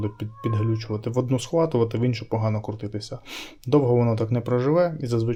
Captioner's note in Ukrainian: сопіння